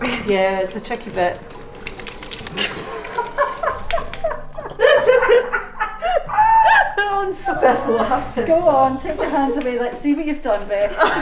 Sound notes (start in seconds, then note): 2.8 laughing